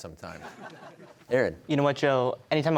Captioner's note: audience chuckling